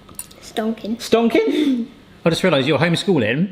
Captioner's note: chuckles